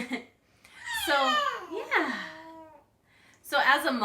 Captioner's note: cute baby sounds